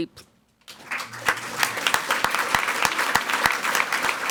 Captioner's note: people clapping